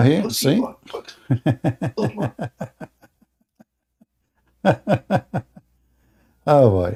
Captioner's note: Ketawa